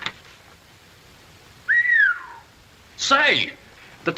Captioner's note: whistles